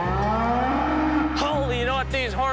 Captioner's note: bull roaring